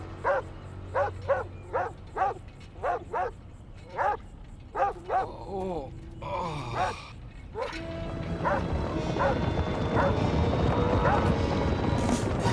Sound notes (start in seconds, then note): 0.2 barking; 4.7 groaning